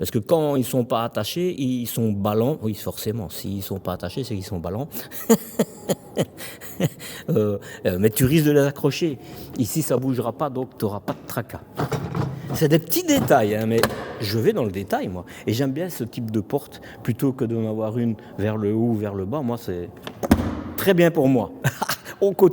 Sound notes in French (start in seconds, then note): 4.9 rires